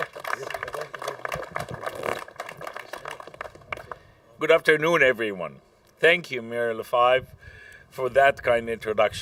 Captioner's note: applause